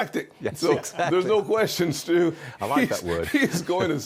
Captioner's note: laughter